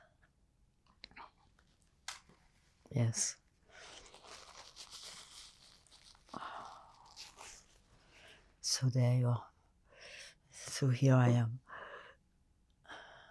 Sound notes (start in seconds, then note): 3.7 wiping nose